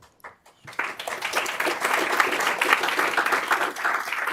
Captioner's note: applause